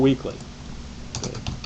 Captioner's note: typing